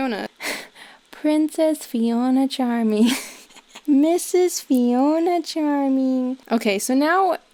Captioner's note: chuckling, puts on fiona's diary narration voice